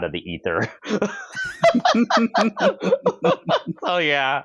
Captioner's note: laughter